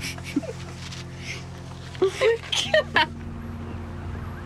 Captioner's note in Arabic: كلاهما يضحك